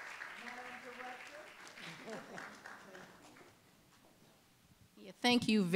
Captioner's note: applause